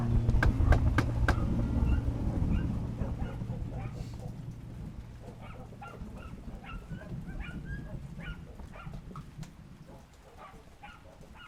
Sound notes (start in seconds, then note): 0.3 knocking on door; 2.6 dogs barking